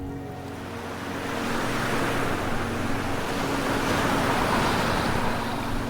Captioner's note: waves crashing